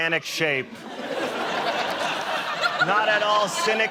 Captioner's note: laughter